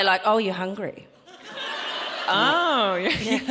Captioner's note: audience laughing